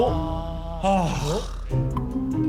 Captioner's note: sighing